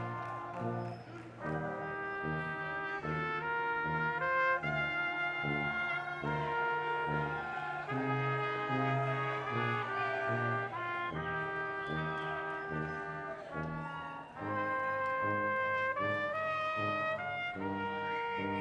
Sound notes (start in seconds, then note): 7.4 audience cheering loudly